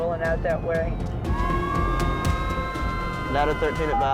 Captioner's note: overlapping sirens